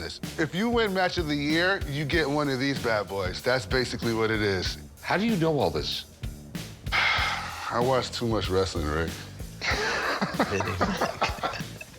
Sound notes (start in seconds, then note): 6.9 sighs; 9.6 laughs